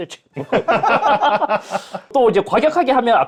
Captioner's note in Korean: 웃음